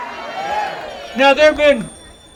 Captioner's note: audience cheering